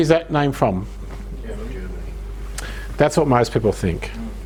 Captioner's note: audience answering